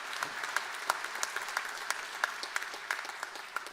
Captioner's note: applause